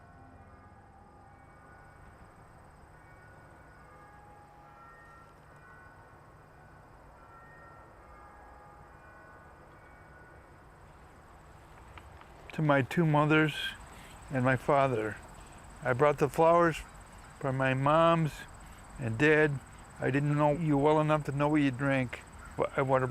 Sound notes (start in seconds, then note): 0.0 sound fades; 0.2 clock chimes in distance